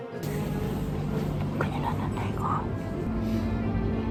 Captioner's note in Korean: 속닥